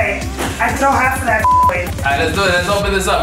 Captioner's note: beep